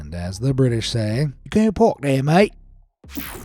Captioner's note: in an English cockney accent